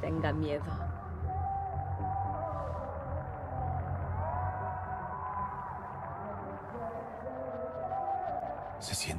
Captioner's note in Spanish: bullicio